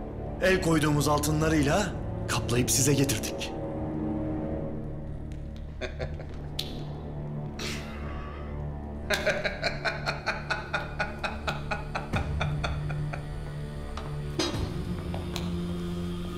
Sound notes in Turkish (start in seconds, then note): 5.7 Gülme sesi; 9.0 Gülme sesi; 13.6 Müzik - Gerilim